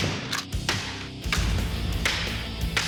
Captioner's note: whacking